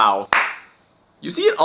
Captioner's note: clap